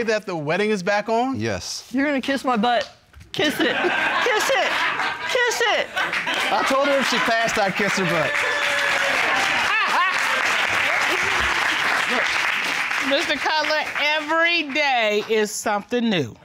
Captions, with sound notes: -that the wedding is back on? -Yes. You're gonna kiss my butt. -Kiss it. Kiss it. -[audience laugh] Kiss it. I told her if she passed, I'd kiss her butt. [laughs] Mr. Cutler, everyday is something new.